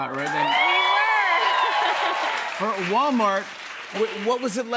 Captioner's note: cheers and applause